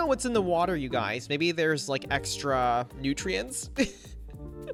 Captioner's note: chuckles